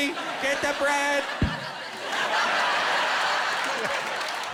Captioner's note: thumping